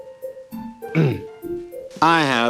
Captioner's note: clears throat